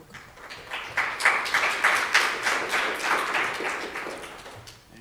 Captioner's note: audience applauding